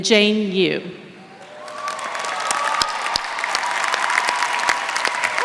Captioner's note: applause